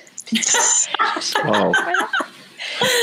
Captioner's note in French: rires